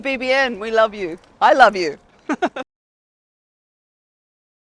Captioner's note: laughs